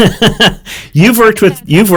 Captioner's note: laughs